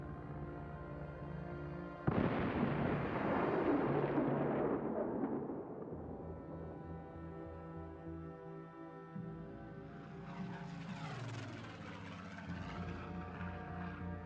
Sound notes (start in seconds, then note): 2.0 explosion; 10.1 plane engines roaring